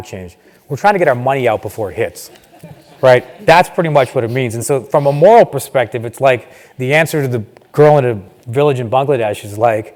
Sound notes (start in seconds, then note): 2.3 laugh